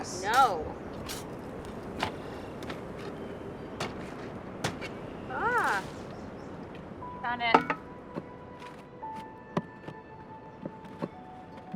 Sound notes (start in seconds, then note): 4.6 thudding